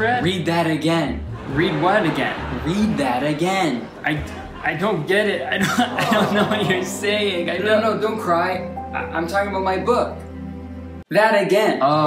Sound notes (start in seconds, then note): 5.4 sobs